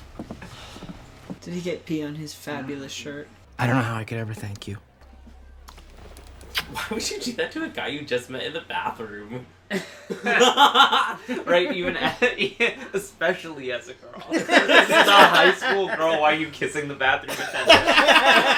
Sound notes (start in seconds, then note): 14.1 laughter